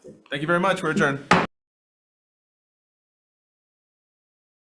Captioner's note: gavel bangs